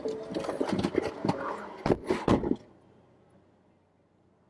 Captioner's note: car door closes